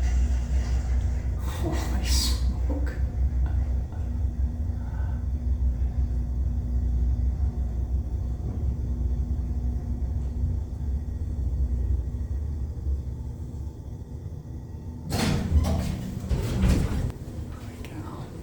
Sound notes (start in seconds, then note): 14.6 stopping elevator